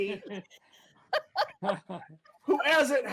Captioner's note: laughter